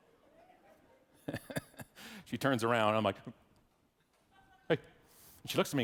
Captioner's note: laughs